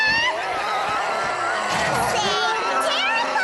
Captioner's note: ferocious roars